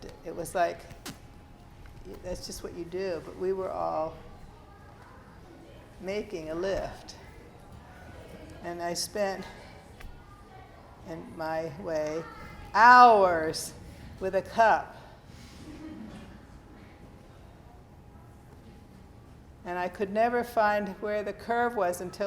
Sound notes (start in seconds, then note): 15.5 students laugh